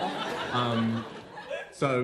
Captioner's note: laughter